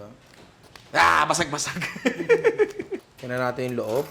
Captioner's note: laughs